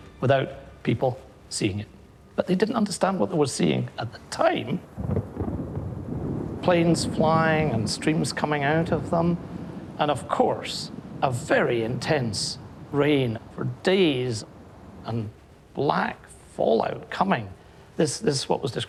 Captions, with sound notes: without people seeing it. But they didn't understand what they were seeing at the time-- [thunder roaring] --planes flying and streams coming out of them and, of course, a very intense rain for days and black fallout coming.